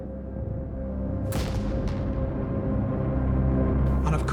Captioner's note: gun fires